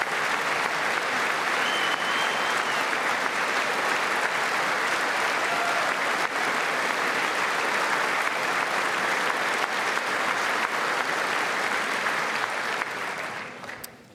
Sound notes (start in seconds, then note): 7.4 applause